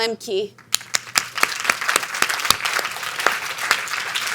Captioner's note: audience applauding